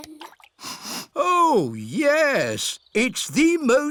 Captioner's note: sniffs